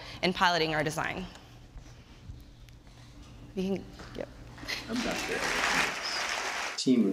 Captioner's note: applause